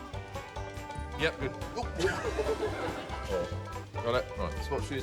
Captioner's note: both chuckle